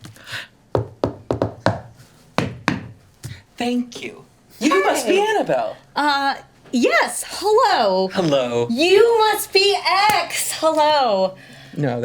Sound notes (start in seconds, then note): 0.7 knocking